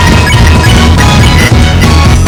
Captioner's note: ring